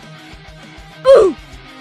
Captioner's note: RobloxOldDeathSound.mp3